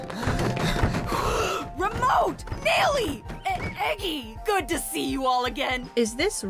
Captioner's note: gasp